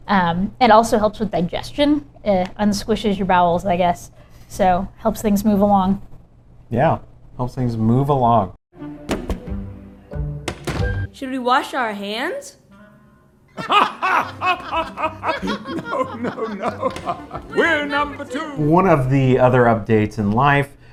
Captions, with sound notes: It also helps with digestion it unsquishes your bowels. I guess so. Helps things move along. Yeah. Helps things move along! Should we wash our hands? (laughter) Oh. Oh, no, no, no. We're number two One of the other updates in life.